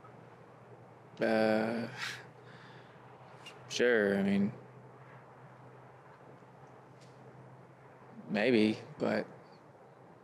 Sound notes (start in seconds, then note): 2.0 he chuckles